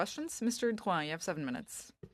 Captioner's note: speaking in French